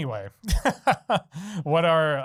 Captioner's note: laughing